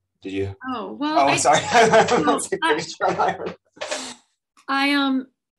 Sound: laughs

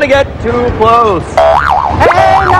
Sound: boing; speaking indonesian

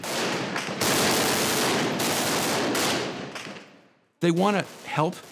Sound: gunfire

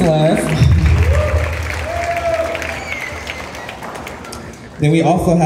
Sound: cheers and Applause

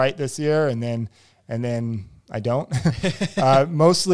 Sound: laughs

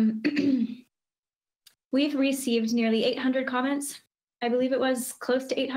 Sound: coughs

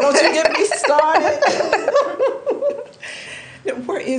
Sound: laughing

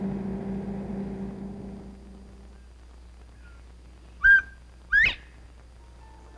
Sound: quail sounds

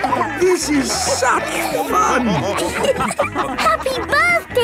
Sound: dance party music; laughing

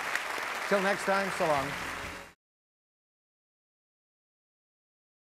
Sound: audience clapping

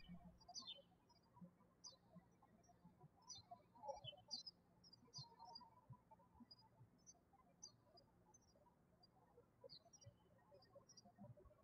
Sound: birds chirping

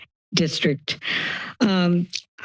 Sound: inhales

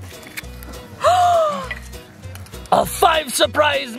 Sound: gasps

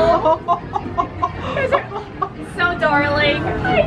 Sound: woman laughs

